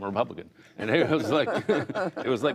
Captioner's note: laughter